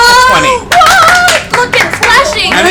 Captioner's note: cheering